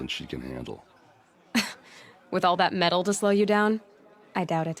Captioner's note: laugh